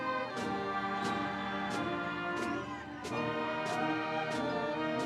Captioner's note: audience cheering